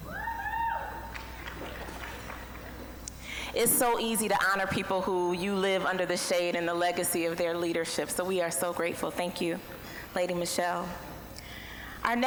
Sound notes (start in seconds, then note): 0.4 scattered applause